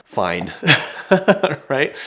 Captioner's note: chuckles